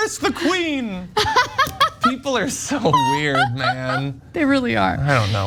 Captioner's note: laugh